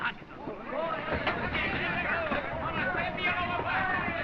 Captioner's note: all exclaiming excitedly